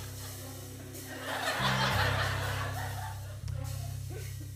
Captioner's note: laughter